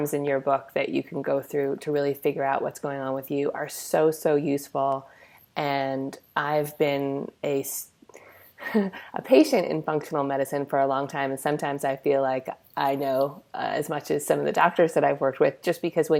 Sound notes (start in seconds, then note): 6.5 laughs